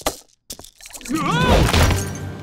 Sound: groaning

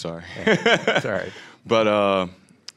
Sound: laughing

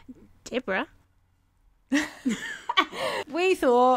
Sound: in an Australian accent; laughter

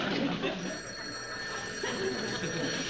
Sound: phone rings

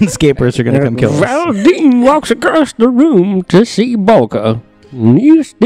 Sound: putting on an old-sounding voice

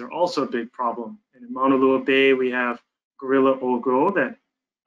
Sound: speaks in foreign language

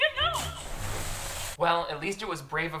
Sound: water splashing

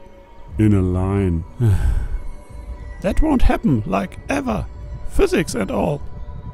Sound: sighs

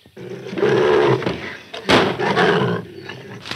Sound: cougar roars; gun fires

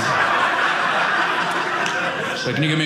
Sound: audience laughing

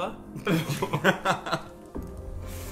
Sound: group laughing

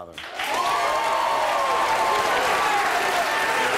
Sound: audience applauds

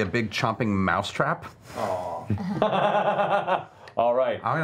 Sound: laughing

